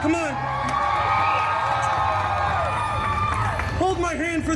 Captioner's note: guests cheering and applauding